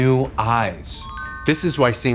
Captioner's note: bell dinging